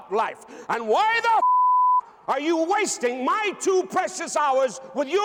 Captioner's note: beep